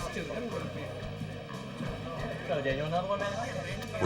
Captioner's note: chatter